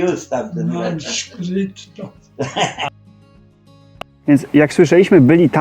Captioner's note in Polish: śmiech